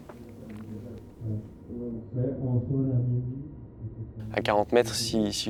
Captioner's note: distant chattering